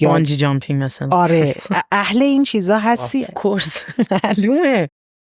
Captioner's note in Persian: خنده